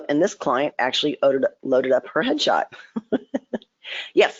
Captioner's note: chuckles